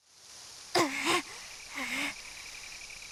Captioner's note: huff